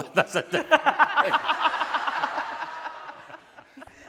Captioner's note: laughing